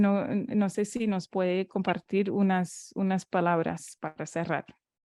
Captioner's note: Spanish